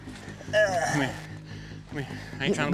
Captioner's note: groaning